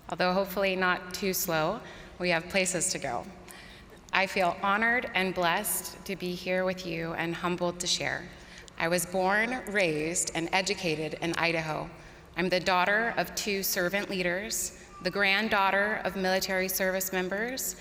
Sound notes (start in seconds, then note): none